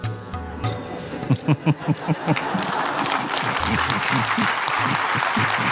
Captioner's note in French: rires et applaudissements